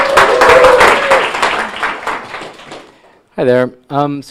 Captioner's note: audience cheering and applauding